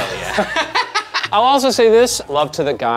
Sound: Ryan and Shane laughing

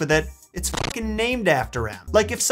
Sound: static crackles

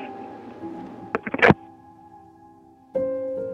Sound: hanging up the phone

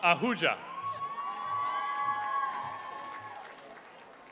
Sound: cheering

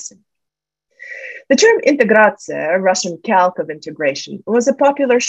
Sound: russian

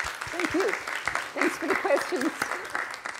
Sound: applause

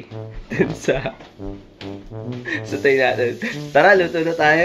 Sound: laughing

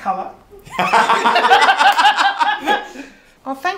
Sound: both laugh; claps

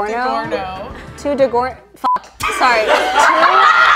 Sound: beep; all laughing

